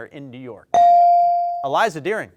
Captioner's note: bell dings